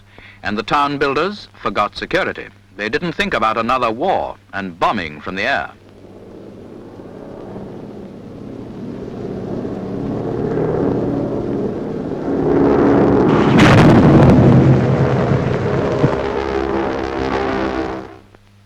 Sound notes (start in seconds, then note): 7.6 planes droning; 13.0 explosion; 15.4 planes droning